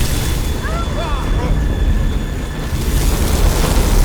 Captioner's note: explosions booming; all shouting; fire roaring